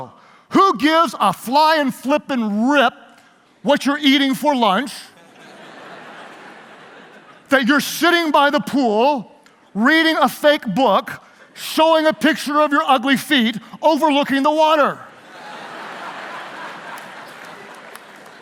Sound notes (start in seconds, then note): 5.5 laughing; 15.7 laughing